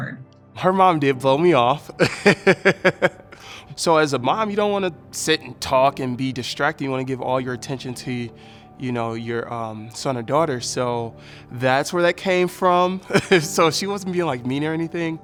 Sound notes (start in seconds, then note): 1.9 laughing